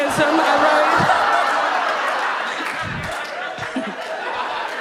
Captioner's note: audience laughs